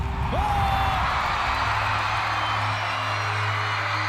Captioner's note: all exclaim